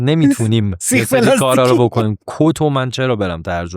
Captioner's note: laughs